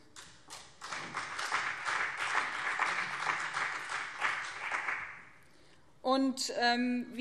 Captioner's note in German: Beifall BÜNDNIS 90/DIE GRÜNEN und CDU